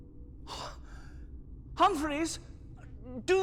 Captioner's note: gasps